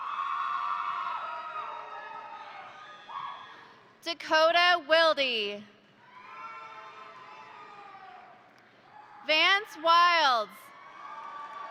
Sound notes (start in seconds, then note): 0.0 crowd cheering; 0.2 crowd applauding; 6.8 crowd applauding; 6.8 crowd cheering; 10.8 crowd applauding